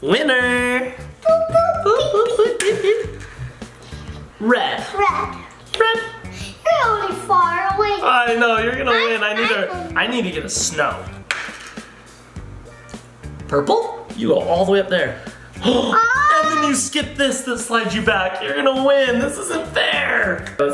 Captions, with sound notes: Winner! - Boop, boop, beep, beep. - Boop, boop, beep, beep. Red. - Red. - You're only far away. - I know, you're gonna win. I need to get a snow! Purple? You are all the way up there. (gasping for air) - Oh! - And then you skipped this that slides you back. You're gonna win. This isn't fair!